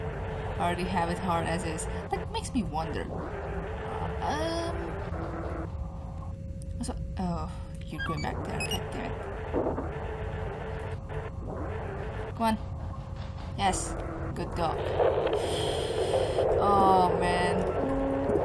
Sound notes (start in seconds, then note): 12.5 ship creak sound 1